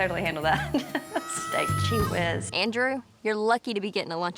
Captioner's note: laughs